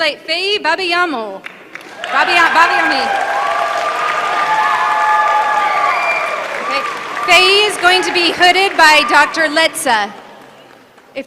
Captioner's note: applause